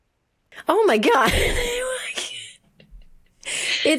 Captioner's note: laughs